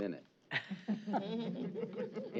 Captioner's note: laughter